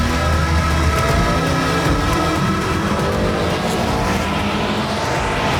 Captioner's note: car engines revving